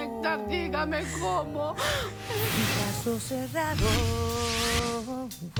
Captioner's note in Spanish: Sollozando